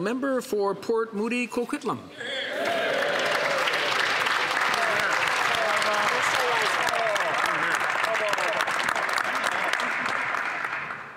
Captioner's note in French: voix de l'interprète